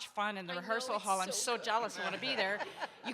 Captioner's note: audience laughs